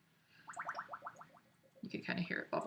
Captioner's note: water bubbling